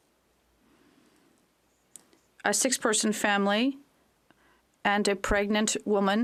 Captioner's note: speaking French